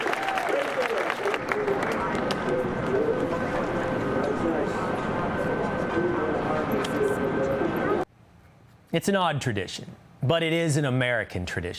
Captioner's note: applause